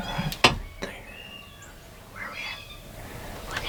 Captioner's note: whispering